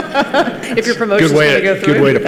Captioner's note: participants laugh